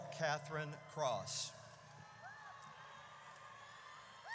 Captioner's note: audience cheers